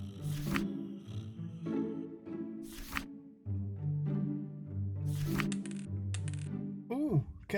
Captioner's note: papers shuffle. dice roll